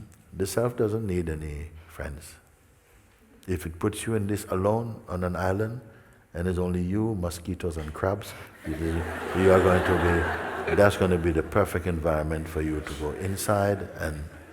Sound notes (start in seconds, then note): 8.6 laughter